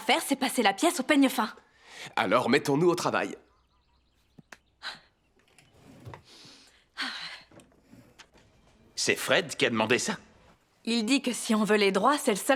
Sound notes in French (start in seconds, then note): 4.4 Becca soupire